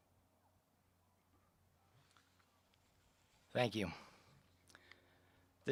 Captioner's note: moment of silence